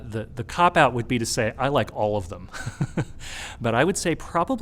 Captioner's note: laughs